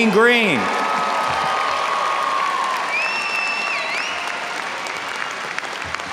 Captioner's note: audience cheering and applauding